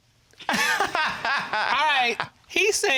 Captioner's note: laughs